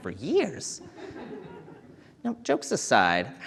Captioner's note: audience chuckling